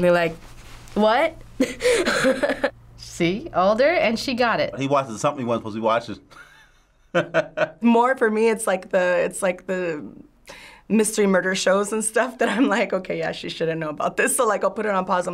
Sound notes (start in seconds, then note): 1.6 laughs; 6.3 chuckles